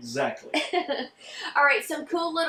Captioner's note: chuckling